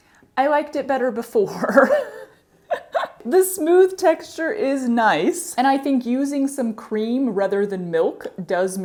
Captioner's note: laughter